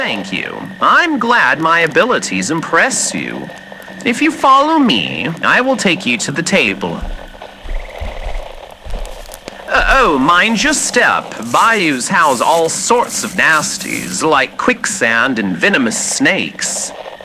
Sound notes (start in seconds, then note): 6.3 walking on grassy ground fx; 17.0 walking through brush fx